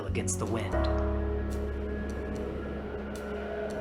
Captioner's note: howling wind